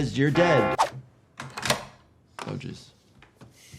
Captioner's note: lock clicks